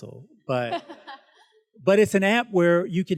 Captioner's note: student laughs